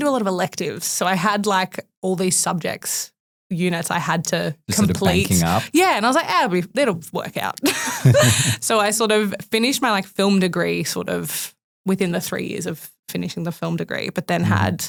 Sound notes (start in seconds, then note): 7.7 laughs